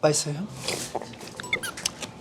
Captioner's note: sip